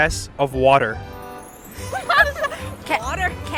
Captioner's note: both laugh